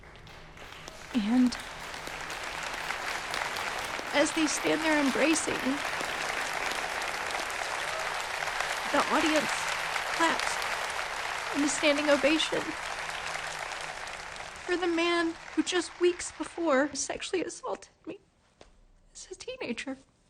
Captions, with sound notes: (audience claps) And as they stand there embracing, the audience claps in a standing ovation for the man who just weeks before sexually assaulted me as a teenager.